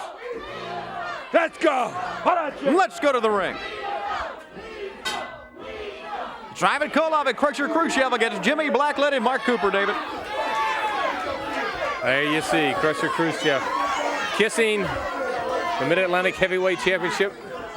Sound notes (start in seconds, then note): 4.2 crowd cheering; 4.7 bell ringing